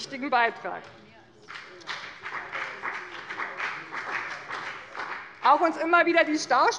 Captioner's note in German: Beifall bei dem BÜNDNIS 90/DIE GRÜNEN und der CDU